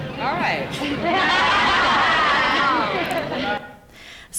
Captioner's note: laughing